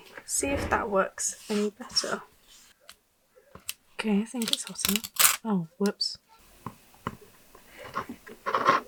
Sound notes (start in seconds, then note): 4.4 paper sticks and rips